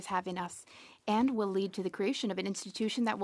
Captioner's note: speaking French